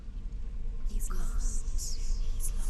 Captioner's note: echoing